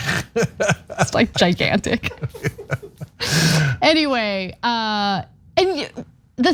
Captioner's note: laugh